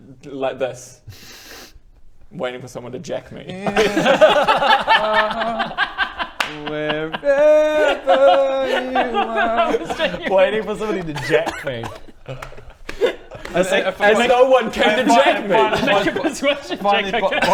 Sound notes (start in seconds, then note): 3.8 alarmed laughter